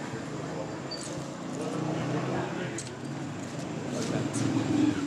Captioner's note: engines sound